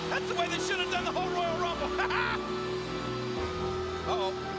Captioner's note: laughs